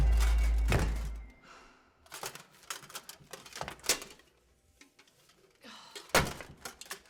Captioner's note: door thumps; the Knight exhales; Eden exhales